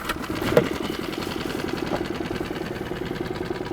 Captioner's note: engine revving